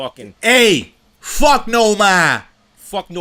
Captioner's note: boston accent